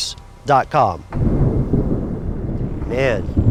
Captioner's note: thunder